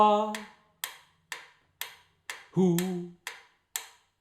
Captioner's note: ticking sounds